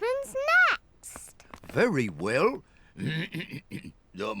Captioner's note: clears throat